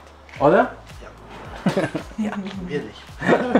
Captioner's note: laughs